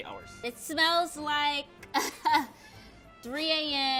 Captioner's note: laughs